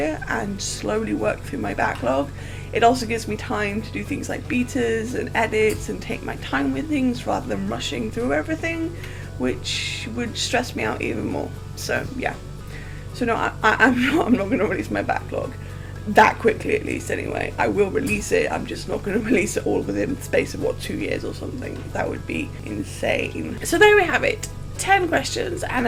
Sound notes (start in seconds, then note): 13.3 laughs